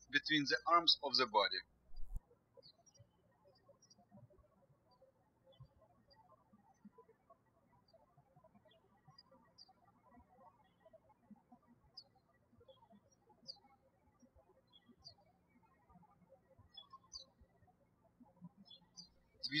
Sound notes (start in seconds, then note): 4.0 birds chirping